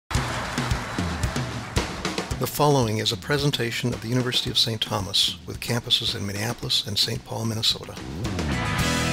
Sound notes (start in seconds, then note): 0.0 drumming and applause; 8.8 upbeat music